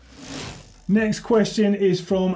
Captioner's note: bike wheel spinning